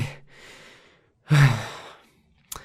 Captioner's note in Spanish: suspiro